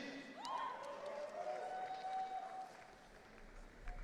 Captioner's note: audience cheering